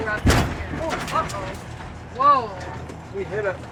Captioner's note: thuds